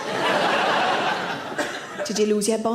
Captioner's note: audience laughs